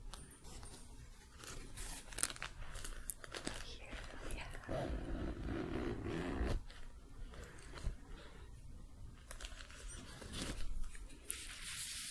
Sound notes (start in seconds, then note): 0.0 light tapping, jingling; 0.1 jingling, crinkling; 4.6 zipper; 7.8 shuffling